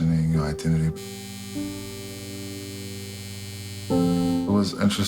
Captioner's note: shaving machine buzzing